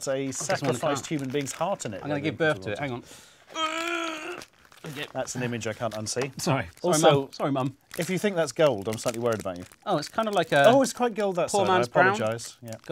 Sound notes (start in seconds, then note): 3.5 grunts